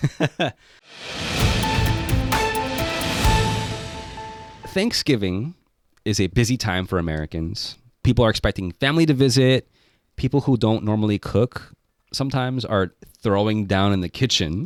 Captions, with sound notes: (laughing) (upbeat music) - Thanksgiving is a busy time for Americans. People are expecting family to visit. People who don't normally cook sometimes are throwing down in the kitchen.